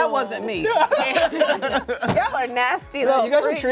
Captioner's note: laughs